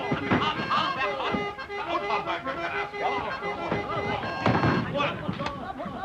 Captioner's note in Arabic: الرجال يصرخون على بعضهم البعض